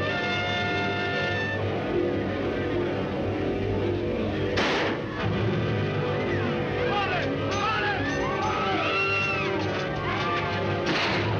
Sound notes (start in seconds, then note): 4.6 gun fires; 5.9 dramatic music; 7.5 people shouting; 10.8 guns firing; 11.1 people screaming